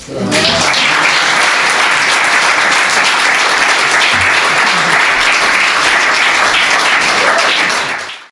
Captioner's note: audience applause